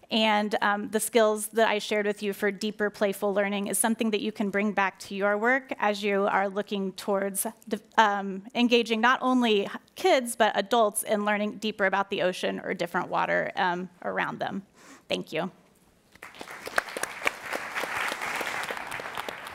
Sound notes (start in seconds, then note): 16.1 applauding